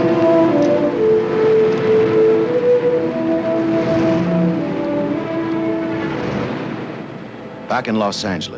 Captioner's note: dramatic music; cars rumble